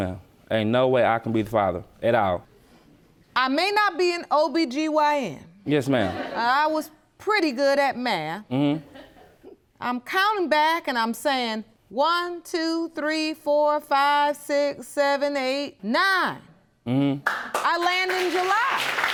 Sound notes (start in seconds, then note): 5.2 audience laughing; 17.2 audience applauding